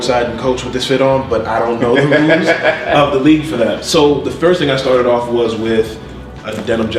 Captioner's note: laughs